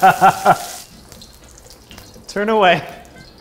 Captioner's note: pan sizzling